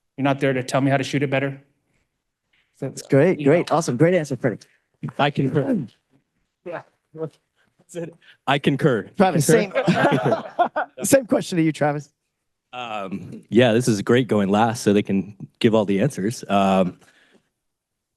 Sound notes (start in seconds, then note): 7.5 faintly speaks; 9.6 all laughs